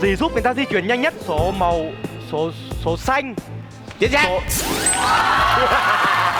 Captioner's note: laughing